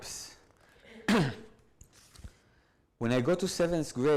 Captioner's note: clears throat